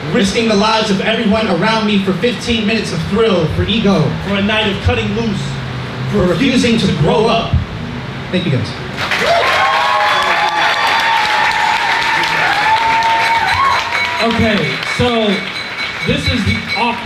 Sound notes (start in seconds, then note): 9.0 audience cheers